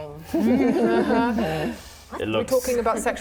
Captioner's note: laughing